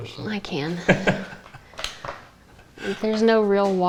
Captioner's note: laughing